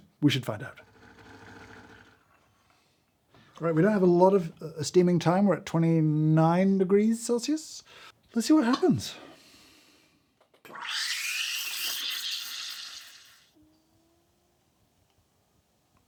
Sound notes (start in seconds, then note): 1.2 coffee machine burbling; 10.8 steam wand hissing